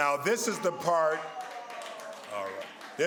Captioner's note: crowd cheers